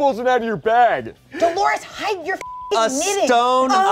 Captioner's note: beep